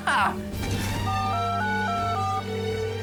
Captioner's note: phone beeps